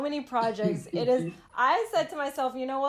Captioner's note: laughter